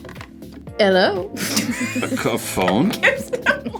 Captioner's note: laughs